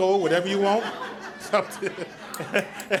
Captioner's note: audience laughs